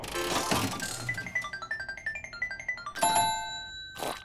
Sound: dinging

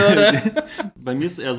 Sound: laughs

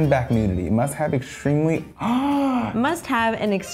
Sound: gasps

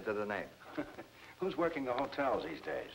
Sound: man laughing

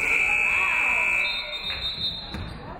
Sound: referee whistles; buzzer buzzes

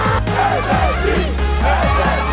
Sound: crowd

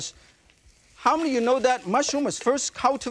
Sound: mushrooms sizzle

